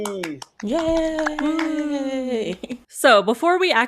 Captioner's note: collective cheering